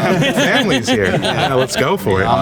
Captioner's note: group laughing